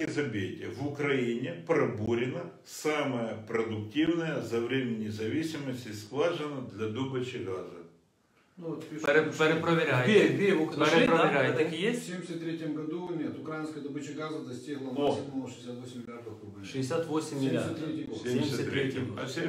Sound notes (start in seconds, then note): 12.6 voice-over